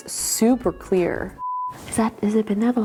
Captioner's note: tone beeping